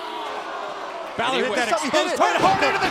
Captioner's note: crowd cheering